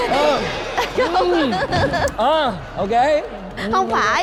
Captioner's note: laughing